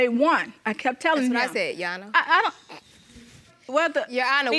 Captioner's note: snorts